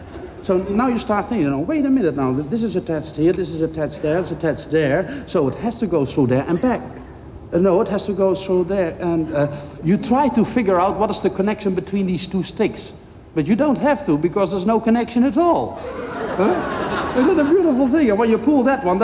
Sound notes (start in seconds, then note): 15.8 crowd laughs